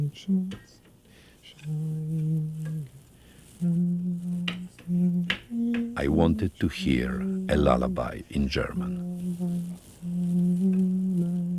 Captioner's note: voice-over